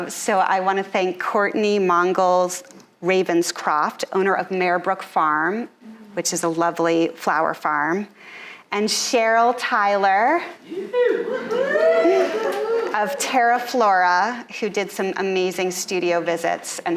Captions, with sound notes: So I wanna thank Courtney Mongols Ravenscroft, owner of Maybrook Farm, which is a lovely flower farm. And Cheryl Tyler (audience cheering) of Terra Flora who did some amazing studio visits